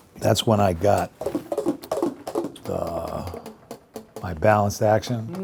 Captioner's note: saxophone keys whirrs